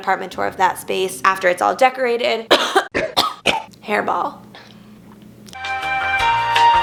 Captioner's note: coughs